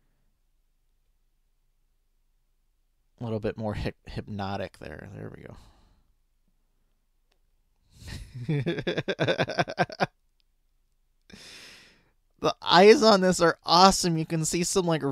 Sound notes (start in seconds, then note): 8.1 laughing